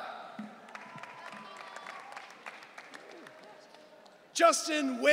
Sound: audience cheering

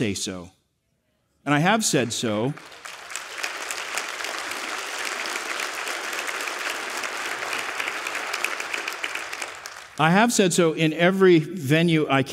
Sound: applause

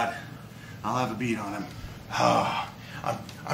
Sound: none

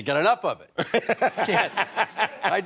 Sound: laughs

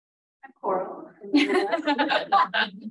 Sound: speaking faintly; laughing

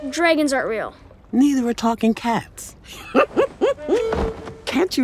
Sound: laughs

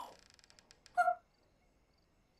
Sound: squeaks

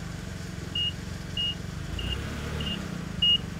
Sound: beeping

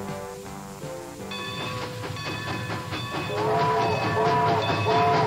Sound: train whistles

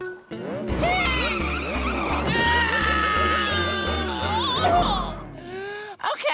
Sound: grunting

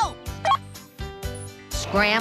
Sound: beep

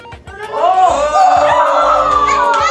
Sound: kids cheering

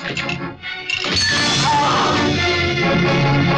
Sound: groans

